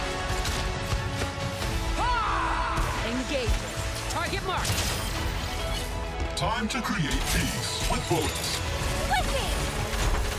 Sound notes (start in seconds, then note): 0.6 yelling